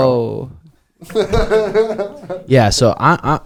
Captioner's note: laughs